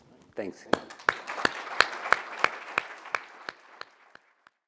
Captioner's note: applause